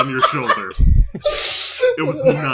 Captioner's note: laughter